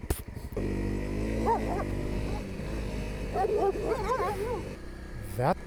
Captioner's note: loud barking